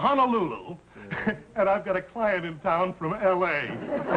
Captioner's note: laughing